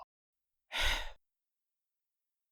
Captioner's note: sigh